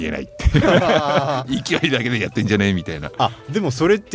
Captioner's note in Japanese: 笑い